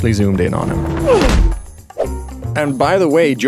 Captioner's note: grunt